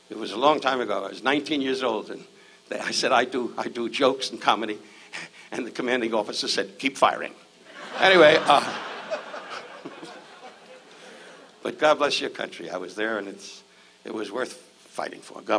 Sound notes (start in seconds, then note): 7.7 audience laughs